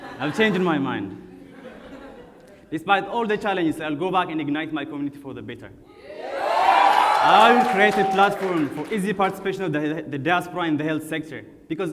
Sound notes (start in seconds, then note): 1.3 audience laughs; 6.0 audience cheers